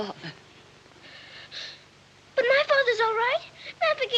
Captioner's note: gasps